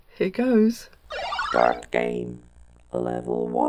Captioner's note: video game start up sound